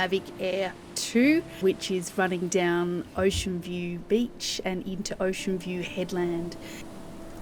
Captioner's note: drone